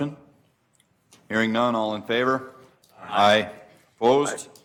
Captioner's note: multiple voices